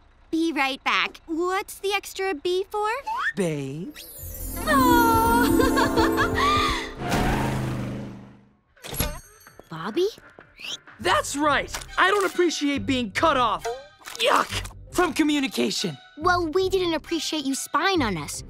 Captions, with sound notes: - Be right back. What's the extra 'B' for? - Babe. Awe! [laughing] Bobby? That's right! I don't appreciate being cut off! Yuck! From communication! Well, we didn't appreciate you spying on us.